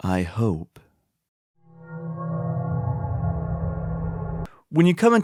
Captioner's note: FNaF ambience